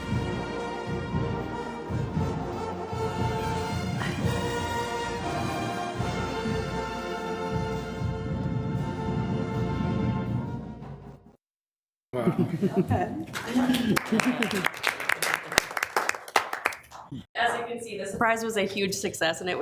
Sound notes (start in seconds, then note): 13.2 group applauds